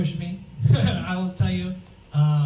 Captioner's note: laughs